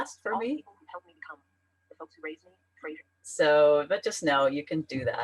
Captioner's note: voiceover